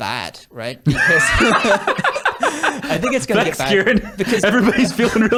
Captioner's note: laughs